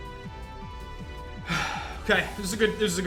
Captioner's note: sighs